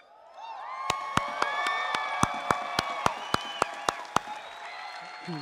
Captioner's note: applause